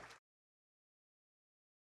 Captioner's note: audience applauding